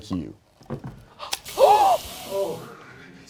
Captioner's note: beer can swooshing; gasping